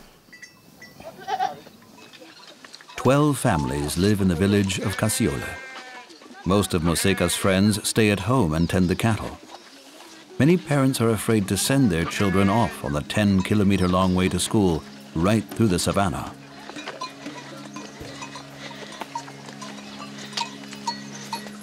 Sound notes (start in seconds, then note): 4.7 goat baaing